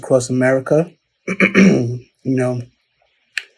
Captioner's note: clears throat